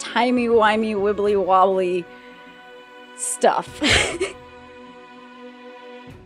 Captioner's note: laughs